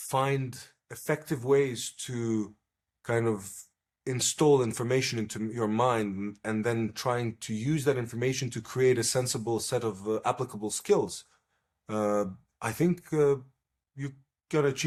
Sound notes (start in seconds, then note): none